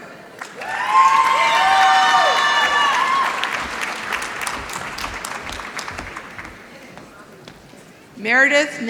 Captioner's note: applause